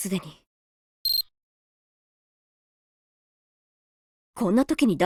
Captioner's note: beep, beep